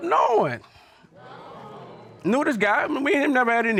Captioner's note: audience exclaiming